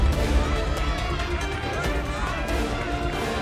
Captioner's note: crowd cheering